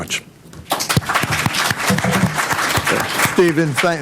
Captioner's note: applause